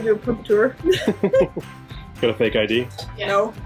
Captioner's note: laughs